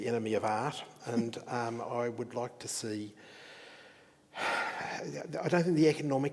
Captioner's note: sighs